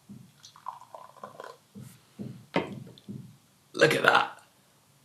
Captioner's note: pouring of liquid